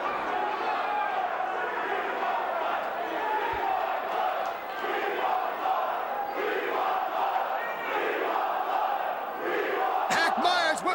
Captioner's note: crowd cheering